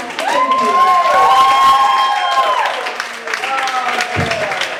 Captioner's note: applause and cheering